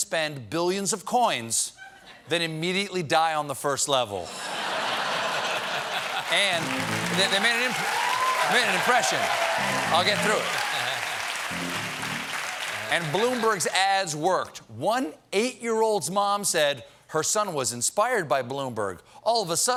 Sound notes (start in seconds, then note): 4.2 laughter; 5.1 applause